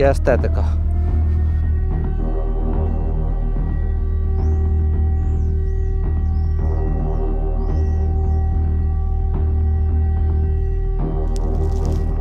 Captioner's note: an alarm siren sounds in the background